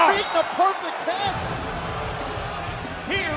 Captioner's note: bell ringing